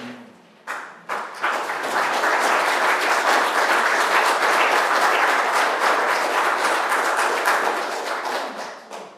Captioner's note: applause